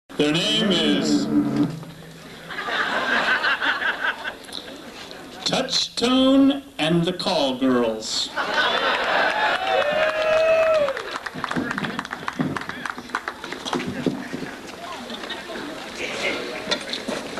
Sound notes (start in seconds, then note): 0.2 reverb